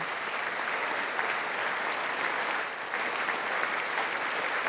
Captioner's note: applause